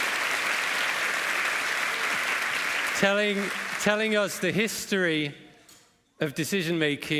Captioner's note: applause